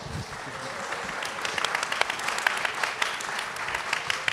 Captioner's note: audience applauding